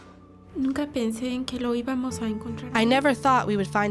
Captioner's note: speaking spanish